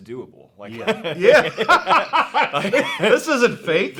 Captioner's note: both laughing